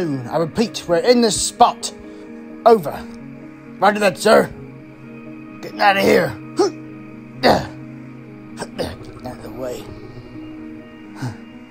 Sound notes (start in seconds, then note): 7.4 grunts; 9.9 pants